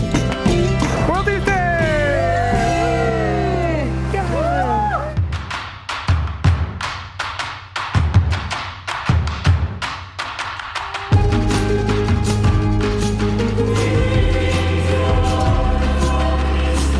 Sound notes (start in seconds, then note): 1.8 cheering; 6.0 energetic music